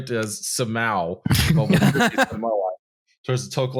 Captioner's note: laughter